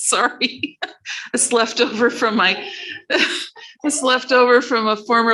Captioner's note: laughing